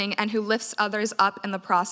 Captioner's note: none